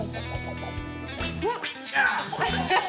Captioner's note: rope sounds; laughter